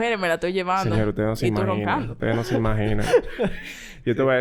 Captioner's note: laughs